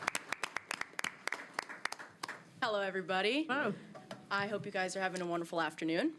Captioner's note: applause